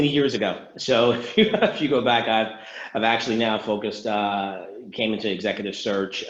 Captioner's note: laughs